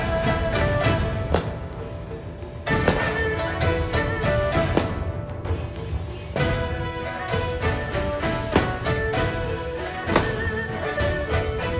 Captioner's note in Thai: เสียงกระแทกไม้